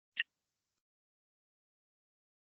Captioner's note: pause